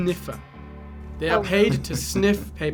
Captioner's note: laughs